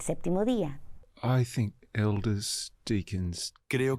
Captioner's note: Hablando idioma extranjero